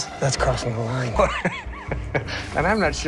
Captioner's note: laughing